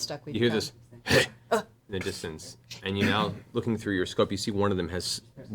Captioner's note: grunt